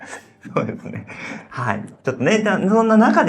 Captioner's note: laughs